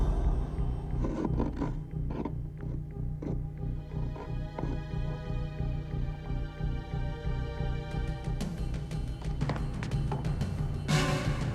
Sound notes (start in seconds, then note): 0.5 scratching; 3.4 suspenseful music continues